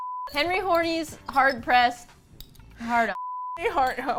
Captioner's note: laughs